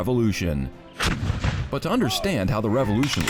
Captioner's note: cannon booming